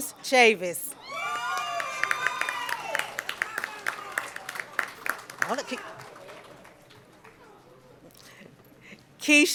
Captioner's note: cheering and Applause